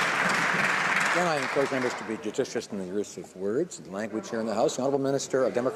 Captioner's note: some Applause